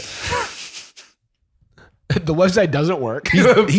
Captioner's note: laughs